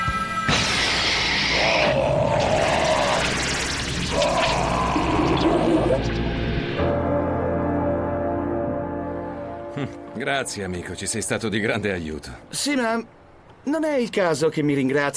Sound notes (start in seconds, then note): 1.4 horde yelling